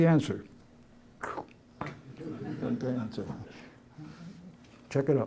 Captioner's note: laughter